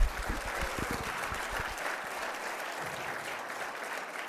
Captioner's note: applause